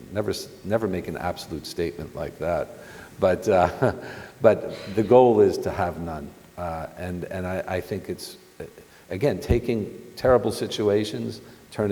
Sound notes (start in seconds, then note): 3.5 chuckles